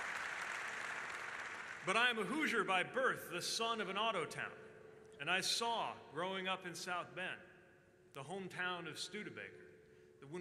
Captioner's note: applause